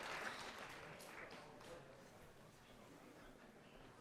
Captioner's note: applause